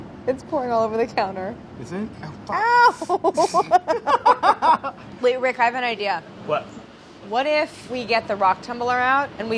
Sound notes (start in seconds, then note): 3.0 laughter